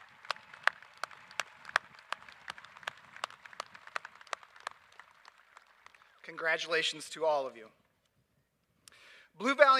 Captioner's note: applause